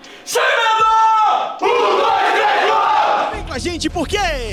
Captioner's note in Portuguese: grito de guerra